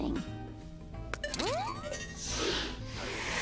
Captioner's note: electrical noises